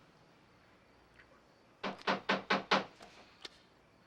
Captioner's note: knocking on door